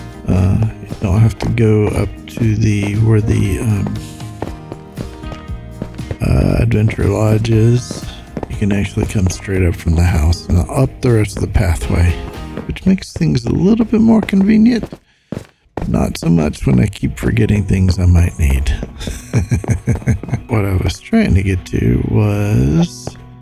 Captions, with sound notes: You don't have to go up to the, where the... Adventure Lodge is. You can actually come straight up from the house and up the rest of the pathway, Which makes things a little bit more convenient. Not so much when I keep forgetting things I might need. [laughs] What I was trying to get to was...